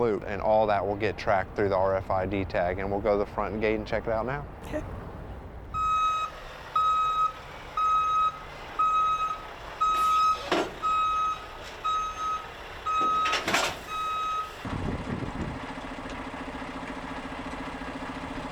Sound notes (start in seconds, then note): 5.7 back-up alarm beeping; 7.3 truck engine roaring; 13.3 trailer rattles; 15.1 truck engine roaring